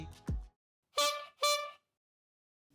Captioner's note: horn honking